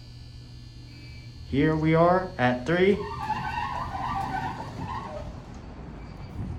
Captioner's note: door Opens